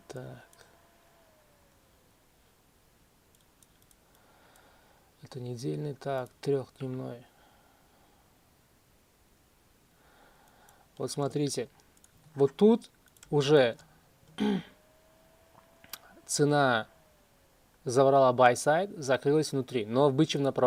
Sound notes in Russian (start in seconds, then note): 14.3 откашливается